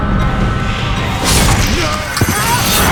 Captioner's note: knife slashes